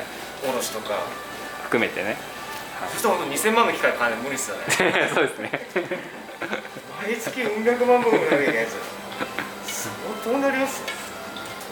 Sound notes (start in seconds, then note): 7.2 laughs